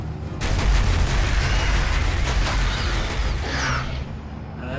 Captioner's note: turret fires